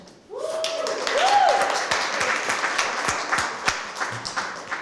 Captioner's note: cheers, applause